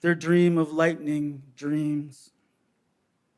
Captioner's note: none